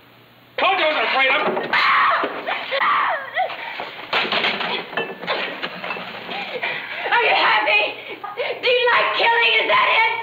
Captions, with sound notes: Told you I wasn't afraid of em'! (screaming) Are you happy? Do you like killing, is that it?